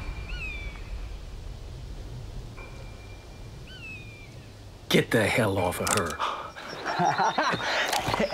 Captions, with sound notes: - Get the hell off of her. (cocks gun)